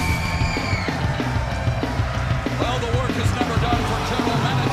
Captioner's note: cheers and applause